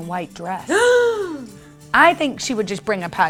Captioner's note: gasps